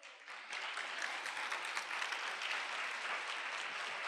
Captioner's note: applause